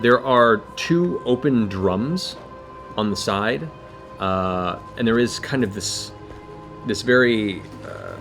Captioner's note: none